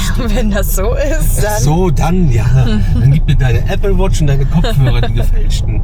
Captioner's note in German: gelächter